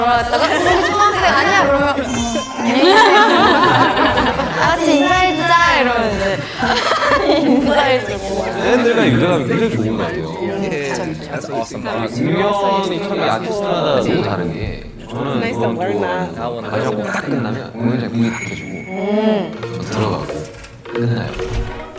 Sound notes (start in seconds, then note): 1.8 aww